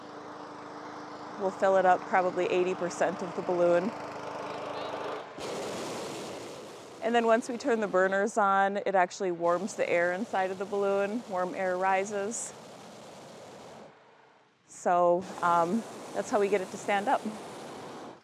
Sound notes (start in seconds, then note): 4.7 air whooshing; 4.7 people talking; 15.2 air blowing